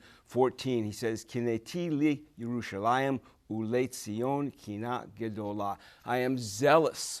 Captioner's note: speaking Hebrew